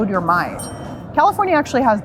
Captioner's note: bell dings